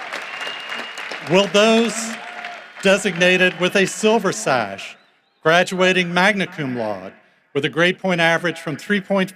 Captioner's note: cheering and applause